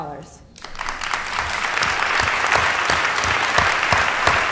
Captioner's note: applause